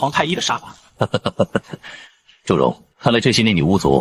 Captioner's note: mocking laughter